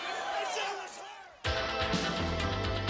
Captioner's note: crowd chatter